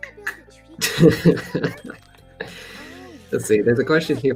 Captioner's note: laughter